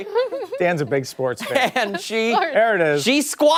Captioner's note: laughter